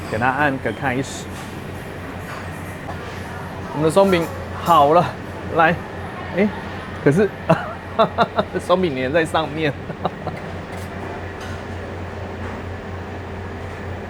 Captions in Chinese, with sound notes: 給它按個開始 我們的鬆餅好了 來 欸 可是 （笑聲） 鬆餅黏在上面